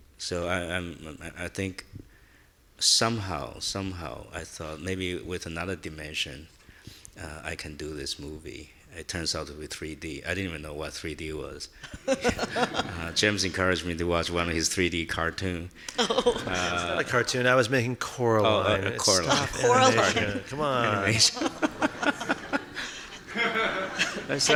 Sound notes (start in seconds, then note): 11.9 laughing; 15.9 laughing; 21.1 audience laughing